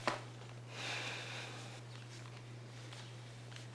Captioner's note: exhaling